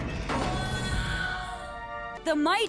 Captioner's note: Baby Moon Mite crying